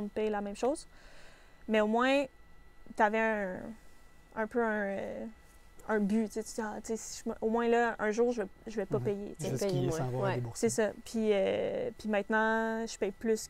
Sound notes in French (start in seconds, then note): none